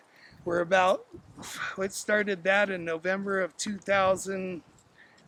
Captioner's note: sighing